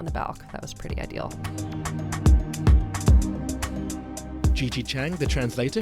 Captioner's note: voiceover